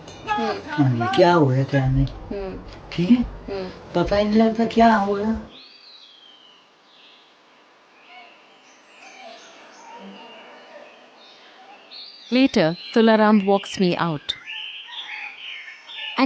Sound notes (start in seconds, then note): 5.6 birds chirpping; 5.6 gentle music; 14.4 birds chirpping; 14.4 gentle music